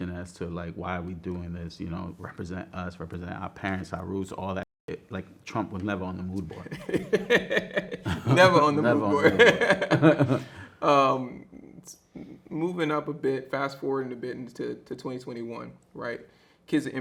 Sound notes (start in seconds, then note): 9.8 both laughing